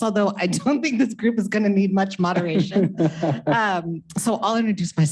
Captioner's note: chuckles